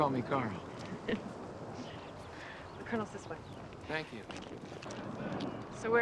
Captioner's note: chuckles